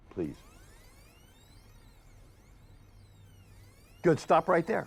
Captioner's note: video tape squelching